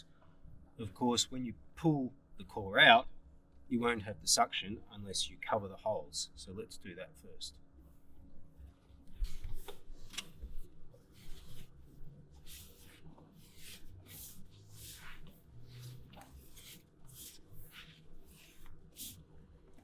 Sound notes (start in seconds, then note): 10.0 sounds of tape being stuck down can be heard